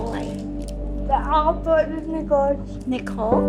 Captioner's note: speaking foreign language